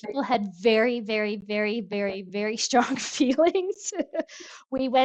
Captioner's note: laughs